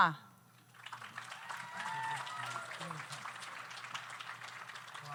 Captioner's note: audience applauds